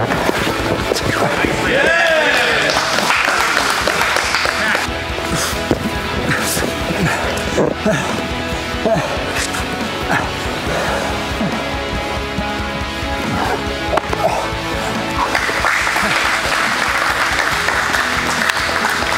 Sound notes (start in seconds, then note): 1.8 spectators applauding; 5.3 warm music; 6.1 panting; 15.1 spectators applauding